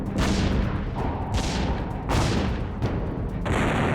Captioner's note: sounds of battle